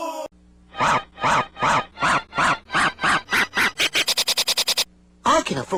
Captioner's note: "wow" looping and speeding up